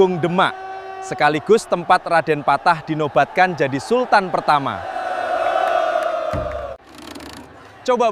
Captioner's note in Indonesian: bersorak